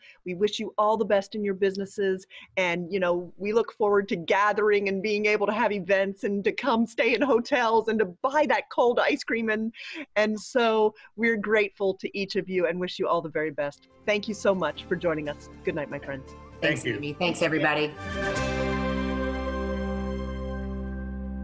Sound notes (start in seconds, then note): 16.6 group saying thank you; 18.7 upbeat music